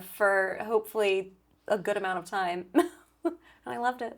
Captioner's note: laughs